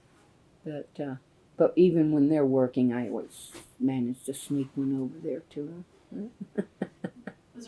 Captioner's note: laughs